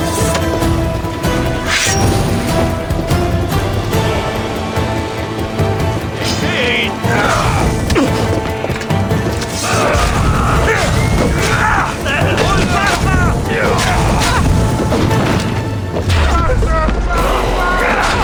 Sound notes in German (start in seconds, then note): 7.0 schreien; 7.7 stöhnen